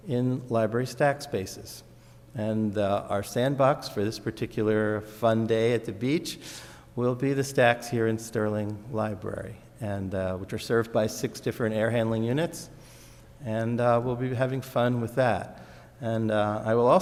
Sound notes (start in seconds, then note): none